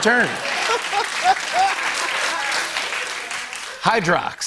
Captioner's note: laughter